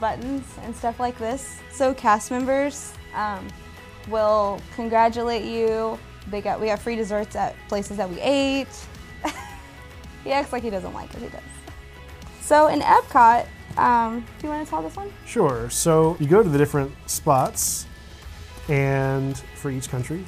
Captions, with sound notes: give you buttons and stuff like this, so cast members will congratulate you, we have free desserts at places that we ate. [laughs] He acts like he doesn't like it, he does. In Epcot, do you want to tell this one? Sure. You go to the different spots, and for each